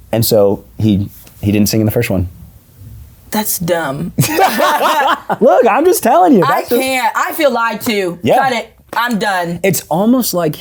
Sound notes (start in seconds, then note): 4.2 both laughing